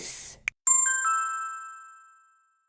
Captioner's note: ding!